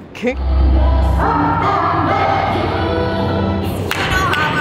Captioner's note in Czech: Potlesk